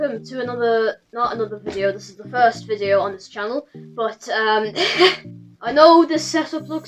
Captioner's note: laughs